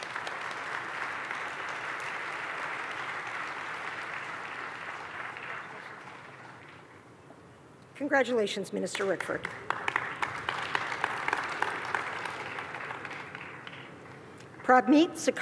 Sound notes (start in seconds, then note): 3.7 applause